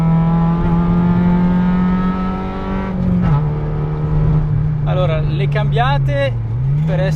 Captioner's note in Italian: rombo del motore